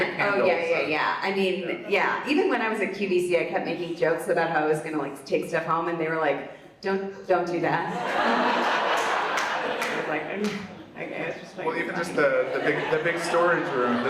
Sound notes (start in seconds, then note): 7.9 audience laughs